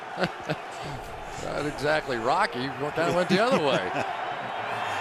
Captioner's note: chuckles